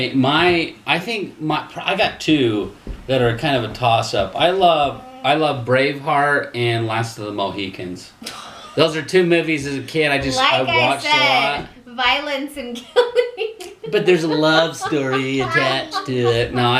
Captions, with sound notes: - Okay, I've got two that are kind of a toss-up. I love Braveheart, and Last Of The Mohicans. Those are two movies as a kid, I just watched a lot. - Like I said, violence and killing. (laughter) - But there's a love story attached to it.